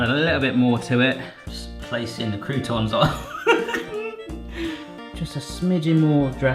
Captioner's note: laughs